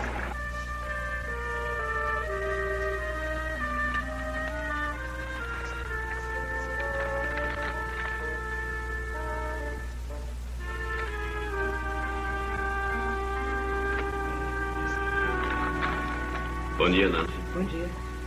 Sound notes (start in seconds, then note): 3.1 papers Rustling